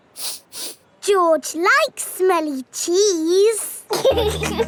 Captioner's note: sniffs; laughing